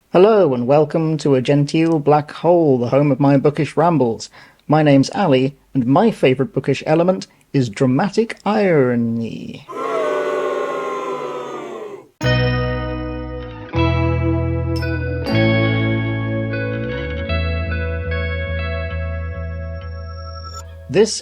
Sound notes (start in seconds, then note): 13.2 crowd boos